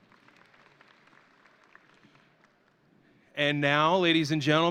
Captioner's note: audience applauding